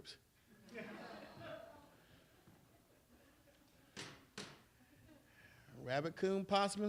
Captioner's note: laughter